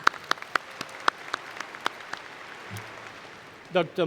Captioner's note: applause